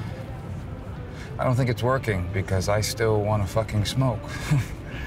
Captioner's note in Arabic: ضحكة مكتومة